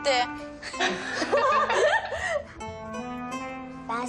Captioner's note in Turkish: Gülüşüyorlar